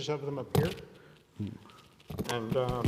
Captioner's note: mic crackling